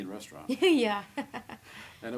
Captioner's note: laughing